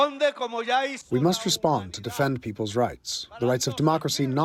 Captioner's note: through translator